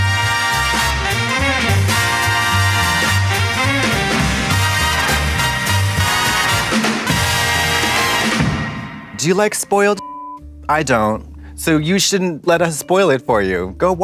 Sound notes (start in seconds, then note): 0.1 upbeat jazzy music; 9.9 beep